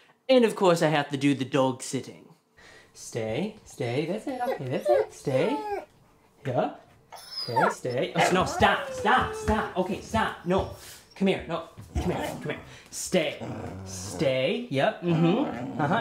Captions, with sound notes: And of course I have to do the dog-sitting. Stay...stay. That's it, okay that's it. Stay. [Dog whining] Okay, stay...No, stop, stop! [Dog growls] Come here...no, come here. Stay. [Dog continues to growl] Stay...yep.